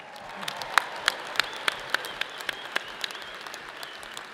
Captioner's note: audience applauds; people whistle